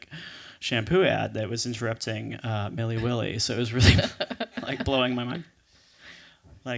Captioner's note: laughs